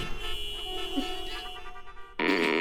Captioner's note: grunts